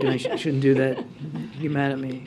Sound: laughs

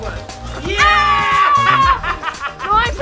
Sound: children yelling; laughs

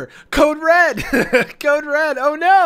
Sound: laughs

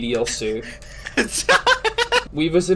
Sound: laughing

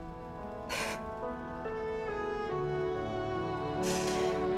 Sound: Daisy crying

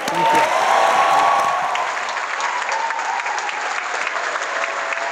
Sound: audience applauds

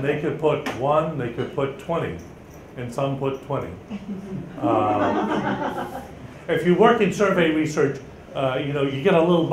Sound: laughter from audience

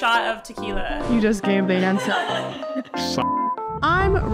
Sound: laughs

